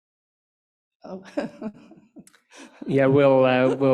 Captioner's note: laughs